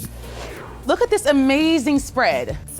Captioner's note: graphics whooshing